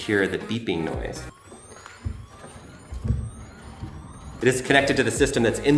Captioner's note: siren whirring